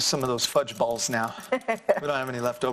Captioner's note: laughing